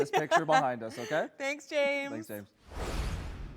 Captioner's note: chuckling